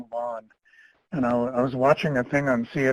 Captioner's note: chuckles